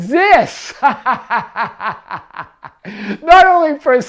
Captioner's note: laughs